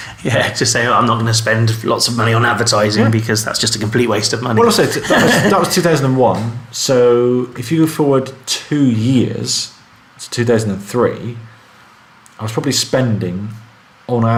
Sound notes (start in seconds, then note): 4.6 laughing